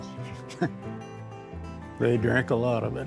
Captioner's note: chuckling